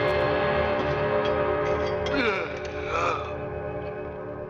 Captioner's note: groaning